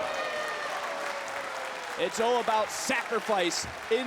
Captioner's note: crowd cheering